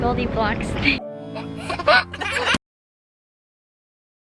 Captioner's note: laughs